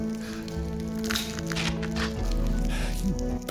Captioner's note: eggs cracking